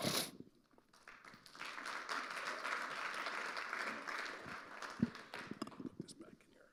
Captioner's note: audience applauding